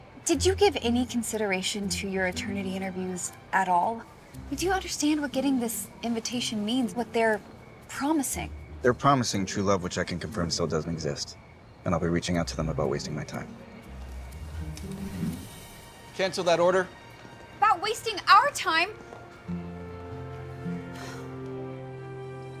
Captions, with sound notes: - Did you give any consideration to your Eternity interviews at all? Did you understand what getting this invitation means? What they're promising? - They're promising true love, which I can confirm, still doesn't exist. And I'll be reaching out to them about wasting my time. Cancel that order! - About wasting our time! (sighs)